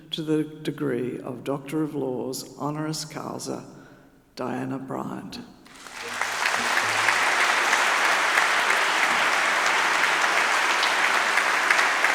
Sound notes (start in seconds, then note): 5.6 audience applauding